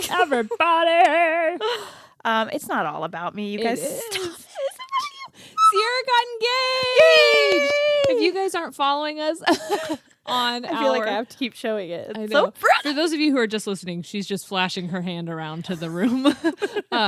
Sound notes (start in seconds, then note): 7.2 cheers; 10.1 laughs